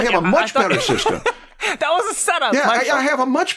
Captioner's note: laughs